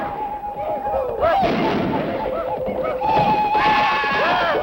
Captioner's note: shooting and shouting